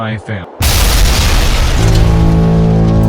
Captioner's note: explosion booms; machine blares